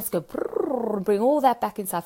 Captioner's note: purring